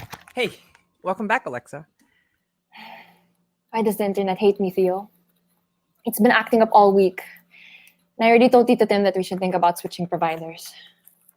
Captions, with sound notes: THEO Hey. Welcome back, Alexa. [Sighs] ALEXA Why does the Internet hate me, Theo? It’s been acting up all week. I already told Tito Tim that we should think about switching providers.